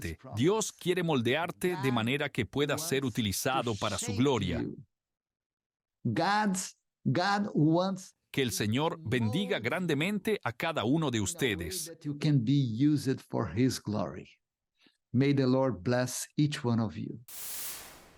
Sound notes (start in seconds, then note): 5.9 Hablando idioma extranjero; 12.3 Hablando idioma extranjero